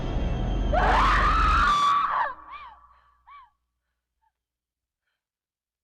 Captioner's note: screaming horrifically